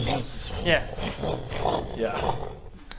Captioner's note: vroom vroommm